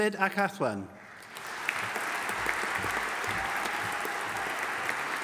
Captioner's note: audience applauding